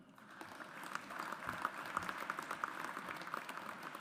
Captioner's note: audience applauds